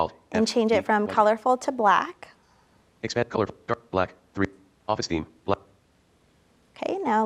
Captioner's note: screen reader in background